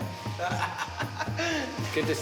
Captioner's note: laughs